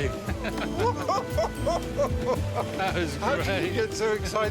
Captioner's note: both laughing